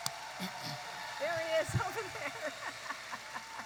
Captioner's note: laughs